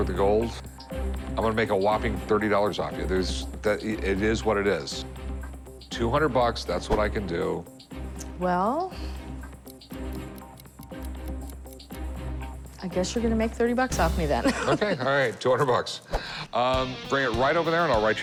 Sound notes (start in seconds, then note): 9.4 watch ticking